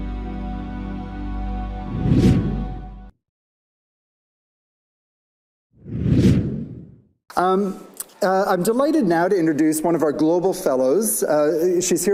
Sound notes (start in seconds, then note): 1.8 screen whooshing; 5.8 screen whooshing